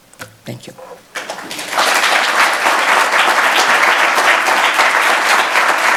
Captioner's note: audience applauding loudly